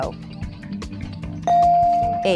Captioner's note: bell dinging